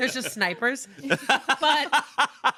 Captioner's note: laughs